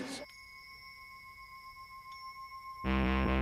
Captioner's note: mysterious ringing; driving electronic beat